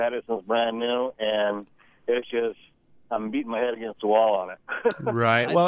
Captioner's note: laughs